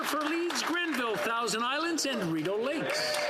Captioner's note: some Applause